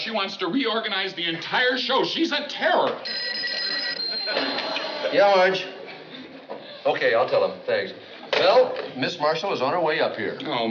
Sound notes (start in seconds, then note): 3.0 phone rings